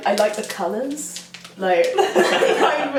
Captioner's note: both laugh